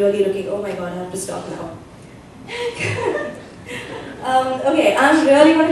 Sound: laughter

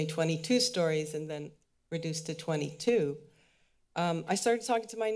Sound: mic echoes

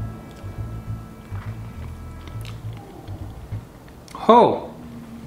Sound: chewing

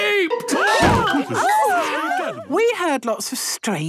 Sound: all gasping

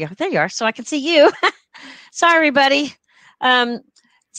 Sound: laughter

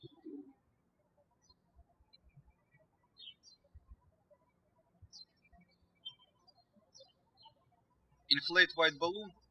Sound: birds chirping

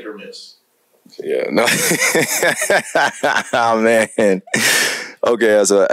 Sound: laughter

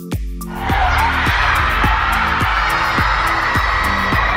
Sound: screaming crowd

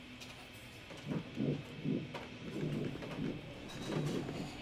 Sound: pen scratching

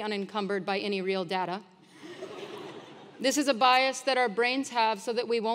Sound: laugh

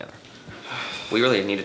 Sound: sighs

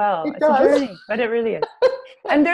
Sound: laughs

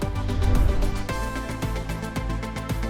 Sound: bright upbeat music continues; air whooshing

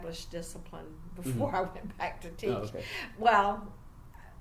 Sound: laughs slightly

